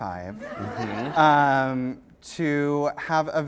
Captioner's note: laughter